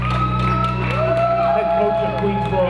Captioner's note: audience applauding and cheering